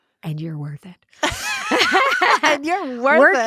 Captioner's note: both laughing